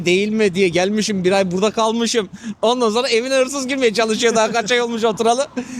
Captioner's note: laughs